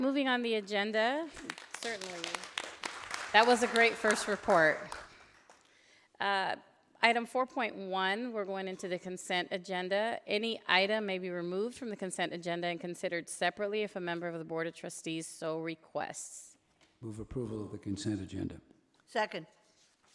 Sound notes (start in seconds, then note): 1.2 audience applauding